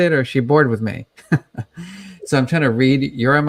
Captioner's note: chuckles